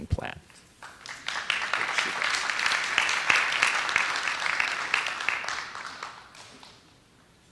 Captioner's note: applause